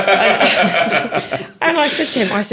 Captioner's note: laughing